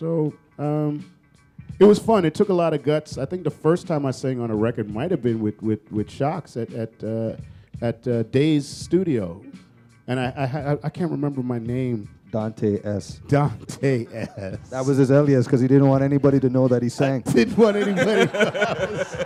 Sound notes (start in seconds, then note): 14.0 chuckle; 19.0 laughter